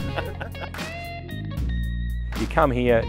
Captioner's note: laughs